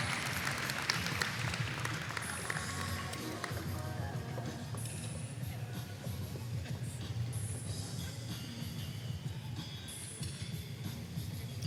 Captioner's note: applause